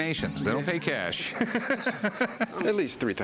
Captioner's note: laughs